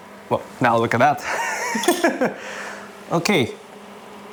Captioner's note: laughs